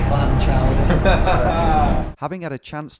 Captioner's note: laughs